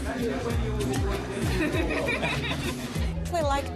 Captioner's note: laughs